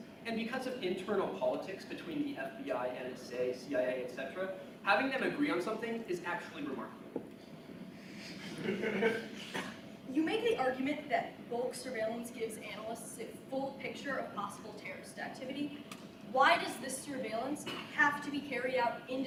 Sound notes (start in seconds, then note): 8.3 audience chuckles